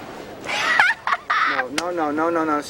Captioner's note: laughs